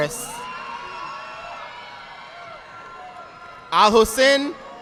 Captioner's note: audience applauding